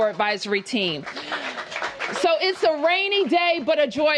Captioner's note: applause